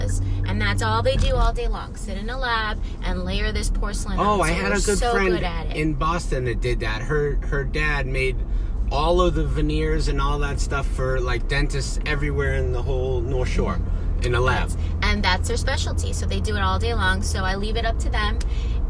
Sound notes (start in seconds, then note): none